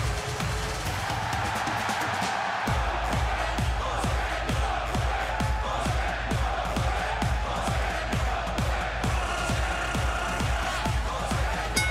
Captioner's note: crowd cheering